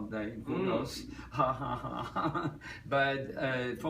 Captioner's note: Tommy laughs